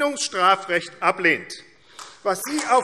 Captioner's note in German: Beifall AfD